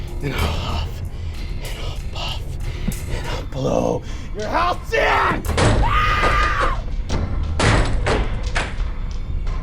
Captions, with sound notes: And I'll huff, and I'll puff and I'll blow your house down. (screaming)